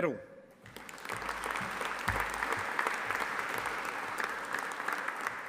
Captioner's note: audience applauding